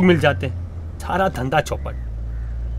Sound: murmuring

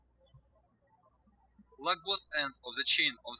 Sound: birds chirping

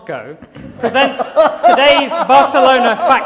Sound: laughter

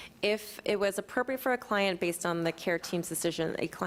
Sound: none

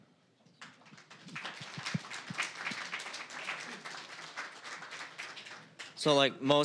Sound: applause

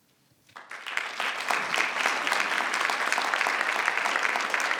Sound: crowd clapping

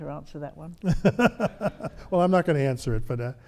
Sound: laughs

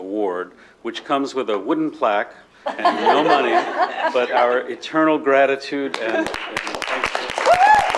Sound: laughter; applause

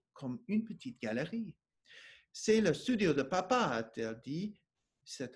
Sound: speaking French

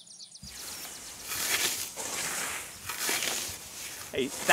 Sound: scraping

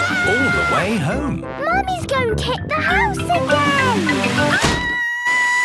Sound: Mummy Pig screaming

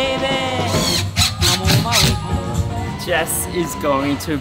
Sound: drill whirs

